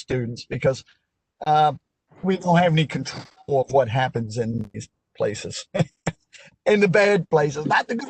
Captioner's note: laughter